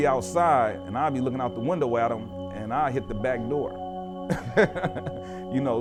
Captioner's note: laughter